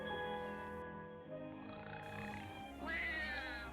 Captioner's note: man snoring; baby crying